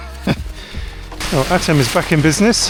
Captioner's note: laughter